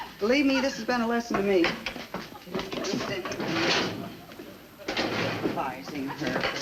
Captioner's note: Joan muttering to herself